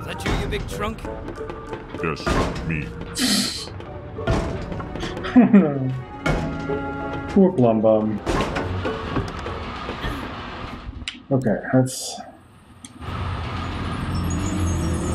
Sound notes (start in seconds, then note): 5.1 laughing softly